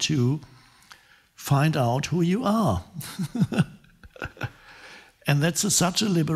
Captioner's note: chuckling